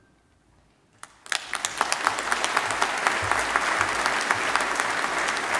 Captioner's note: audience applauding